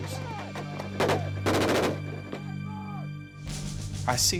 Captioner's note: gunfire